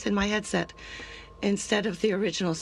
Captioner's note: speaking in French